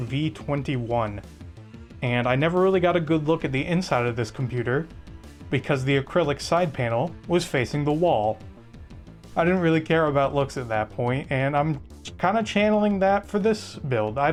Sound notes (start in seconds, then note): none